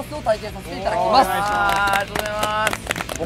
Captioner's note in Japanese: 拍手